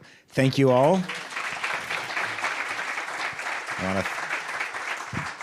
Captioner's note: audience applauding